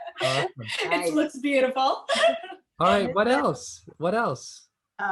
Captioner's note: laughter; laughter